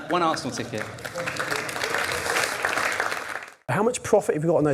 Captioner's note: audience applause